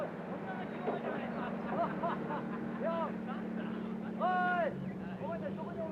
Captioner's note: Japanese soldiers chattering